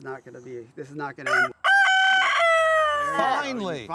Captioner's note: rooster crows